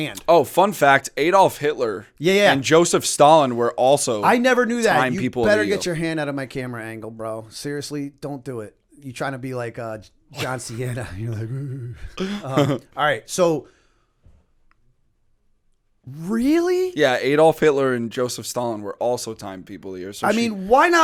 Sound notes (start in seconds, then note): 11.9 laughter